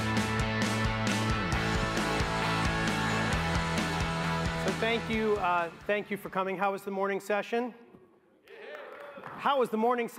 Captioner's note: applause